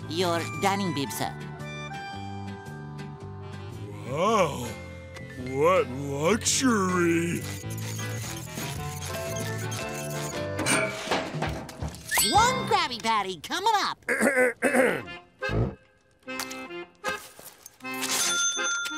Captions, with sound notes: Your dining bib, sir. Wow. What luxury! One Krabby Patty coming up. [Mr. Krabs clears throat]